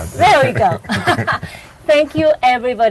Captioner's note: chuckles